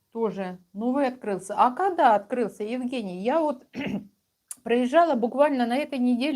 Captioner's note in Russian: откашливается